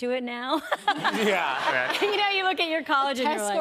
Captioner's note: laughter